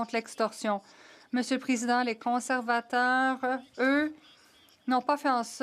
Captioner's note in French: voix de l'interprète